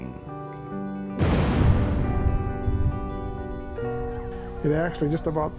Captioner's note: explosion bang